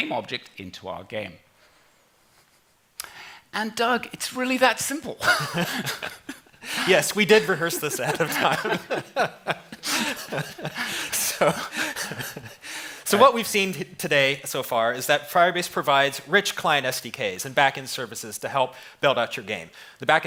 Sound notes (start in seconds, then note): 9.8 laughter